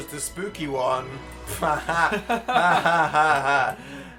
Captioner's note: evil laughter